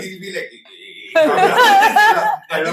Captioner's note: laughs